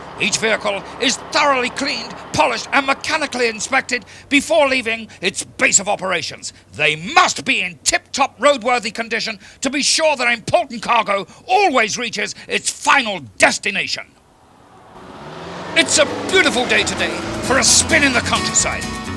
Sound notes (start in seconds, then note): 15.1 truck humming; 18.5 upbeat music